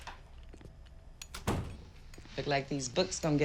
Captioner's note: door closes